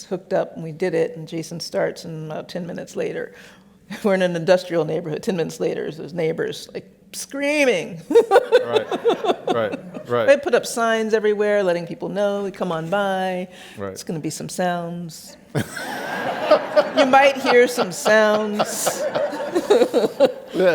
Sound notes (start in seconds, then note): 8.2 laughs; 15.5 laughs